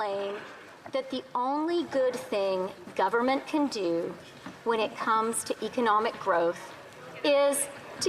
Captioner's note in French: voix de l'interprète